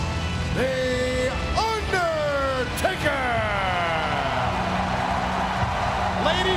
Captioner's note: crowd cheers